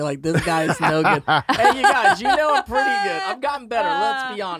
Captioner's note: laughs